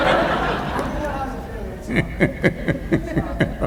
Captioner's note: laughter